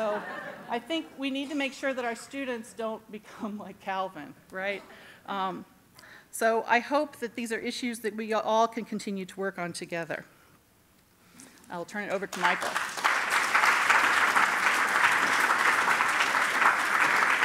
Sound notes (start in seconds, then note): 12.2 applause